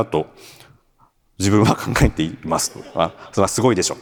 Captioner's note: chuckles